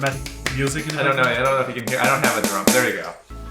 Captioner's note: clapping; drum beats